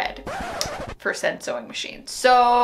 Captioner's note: record scratch